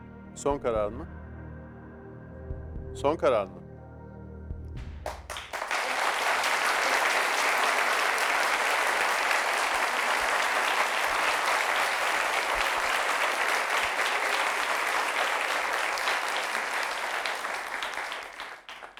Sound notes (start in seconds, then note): 5.0 applause